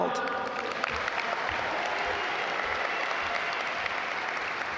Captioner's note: audience applaud